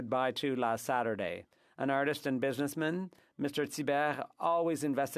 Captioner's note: french